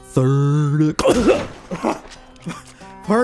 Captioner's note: coughing